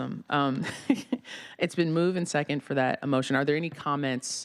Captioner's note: laughter